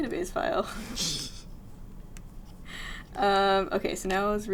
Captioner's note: chuckles